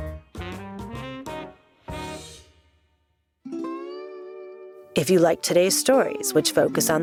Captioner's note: voice over